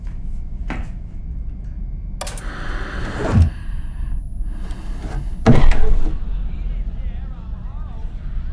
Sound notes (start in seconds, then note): 1.9 static on TV